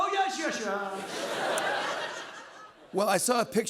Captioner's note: laughter